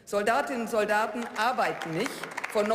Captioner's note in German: Beifall